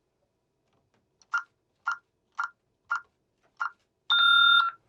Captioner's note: beeping